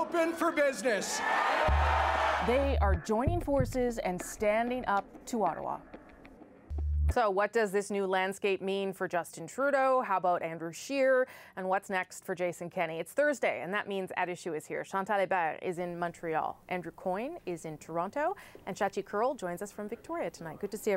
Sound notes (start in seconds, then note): 2.7 cheers and Applause